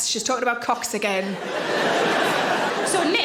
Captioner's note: audience laughing